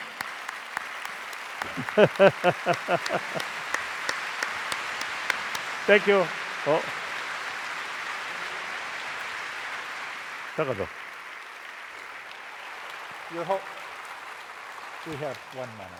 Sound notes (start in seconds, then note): 0.2 applause; 1.6 laughter; 6.3 applause